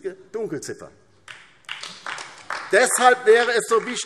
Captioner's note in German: Beifall DIE LINKE und vereinzelt SPD